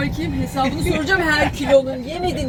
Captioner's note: laughter